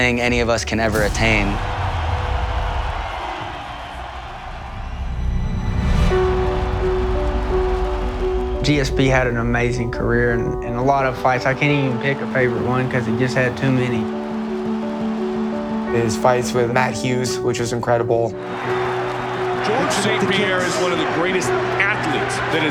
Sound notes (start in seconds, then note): 0.9 crowd cheering; 6.4 tranquil music playing